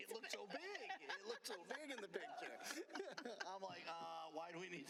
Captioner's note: laughter